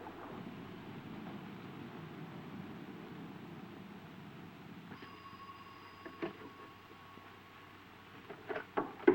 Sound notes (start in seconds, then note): 4.9 phone ringing